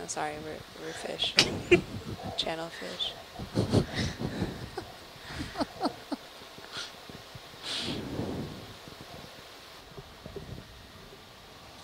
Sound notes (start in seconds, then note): 2.1 laughter; 5.2 laugher